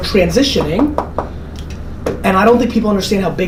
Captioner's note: knocking